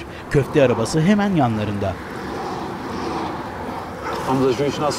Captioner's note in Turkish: Trafik sesi